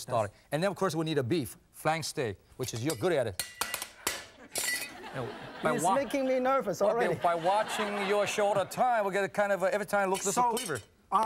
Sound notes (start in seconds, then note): 2.6 knife clanging; 5.0 laughing